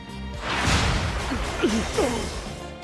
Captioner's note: Dee, Will, Judge, and Miles gasp